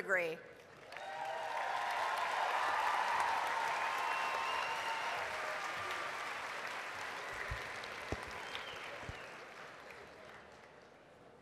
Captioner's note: applause, cheering